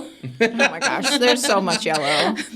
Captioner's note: participants laughing